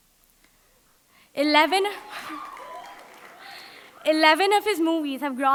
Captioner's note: audience applauding